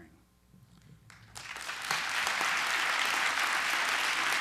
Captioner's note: applause